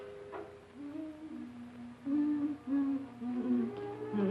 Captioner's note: Minnie humming